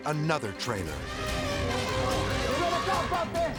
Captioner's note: elephant trumpeting